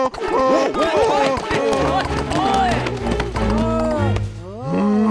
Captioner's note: frantic braying; hooves clacking